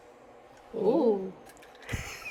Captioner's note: in unison: ooh!